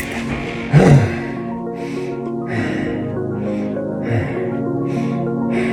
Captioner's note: empty mag rattles; deep breathing